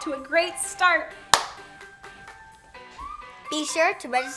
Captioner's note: hands slapping